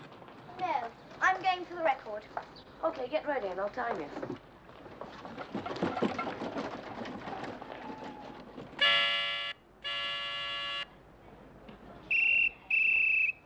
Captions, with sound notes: Now, I'm going for the record. OK, get ready and I'll time you. [honking] [whistling]